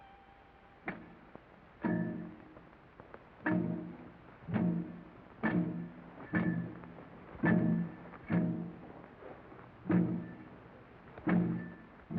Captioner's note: chopping sounds